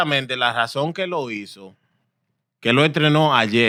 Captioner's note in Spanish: Hablando en idioma extranjero